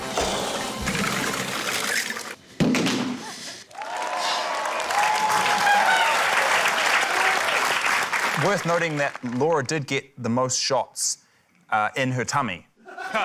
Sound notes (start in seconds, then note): 2.6 thud!; 5.9 cheering, applause; 12.8 laughter